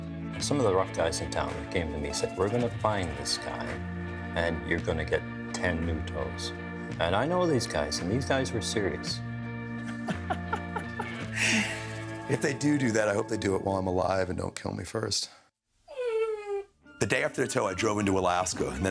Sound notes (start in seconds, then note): 9.8 laughing; 15.9 dog whimpering